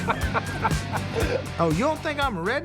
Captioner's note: Si laughing